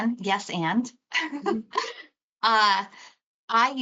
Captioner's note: laughter